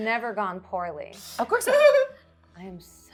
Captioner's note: laughing